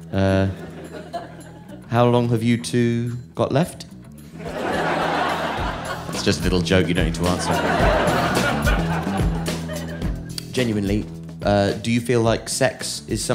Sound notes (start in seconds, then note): 4.4 audience laughing